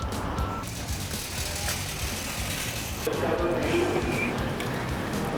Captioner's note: shopping carts rattling